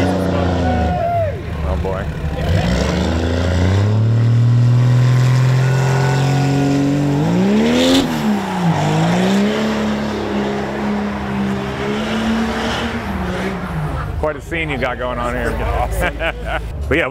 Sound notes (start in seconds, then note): 3.3 engines revving; 15.4 chuckles